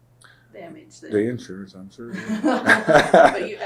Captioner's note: laughter